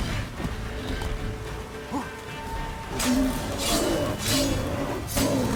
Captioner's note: gameplay playing